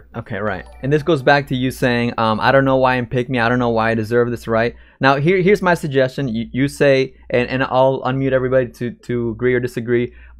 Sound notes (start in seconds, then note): none